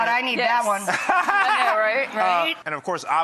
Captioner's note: laughs